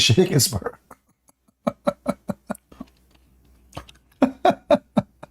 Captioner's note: Ketawa